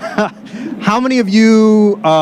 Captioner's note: laughter